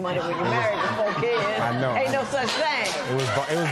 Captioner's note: laughter; applause